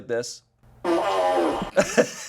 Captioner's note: fart machine farts; laughs